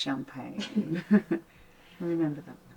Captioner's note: Tilly and Linda chuckling